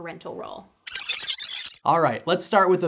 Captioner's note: digital glitch